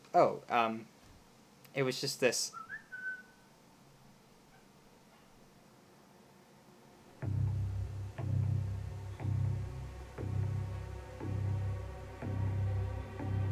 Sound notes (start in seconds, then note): 2.5 distant whistling